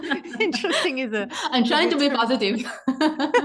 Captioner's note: laughs